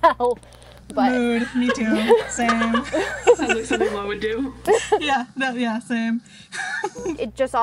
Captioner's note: hosts laugh